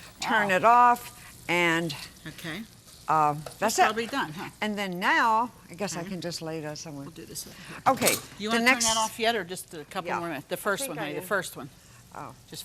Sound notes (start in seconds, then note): 7.9 clanking utensils